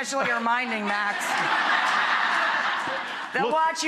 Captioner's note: audience laughing